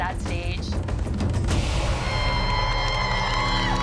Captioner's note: applause and cheering